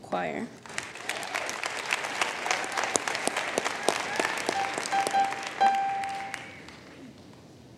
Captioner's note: applause